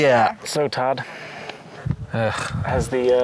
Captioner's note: sighing